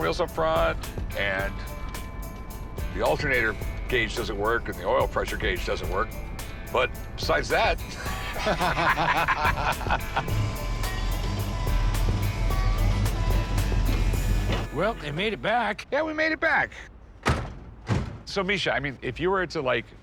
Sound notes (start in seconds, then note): 8.1 laughter; 11.4 engine rumbling